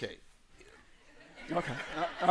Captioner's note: laughter